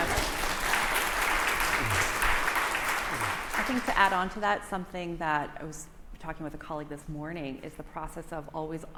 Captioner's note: applause